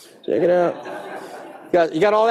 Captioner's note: audience laughing